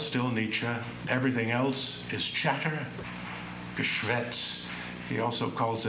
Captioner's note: non-english speech